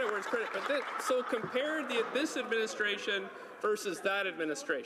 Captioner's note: applause